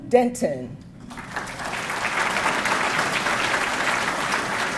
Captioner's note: audience clapping